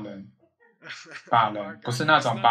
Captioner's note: laughs